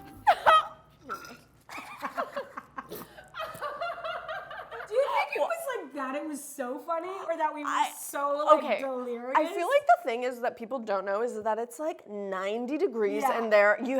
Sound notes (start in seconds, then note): 0.2 laughing; 1.4 squirting